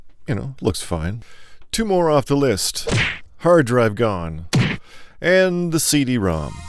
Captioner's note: kick